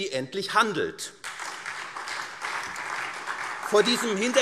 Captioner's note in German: Beifall SPD und DIE LINKE